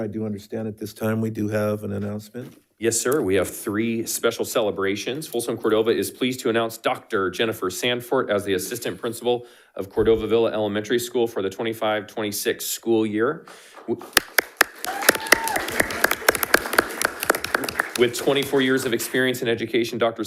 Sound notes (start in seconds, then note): 14.1 attendees applauding; 14.7 attendees cheering